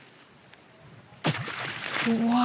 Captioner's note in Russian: бульк